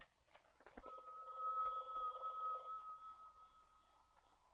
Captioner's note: phone ringing